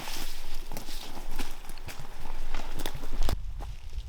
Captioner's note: brush rustling